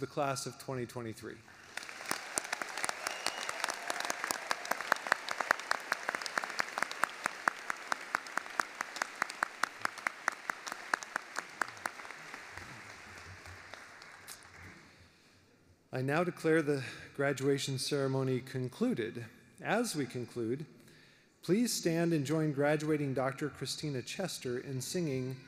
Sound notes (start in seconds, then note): 9.1 applause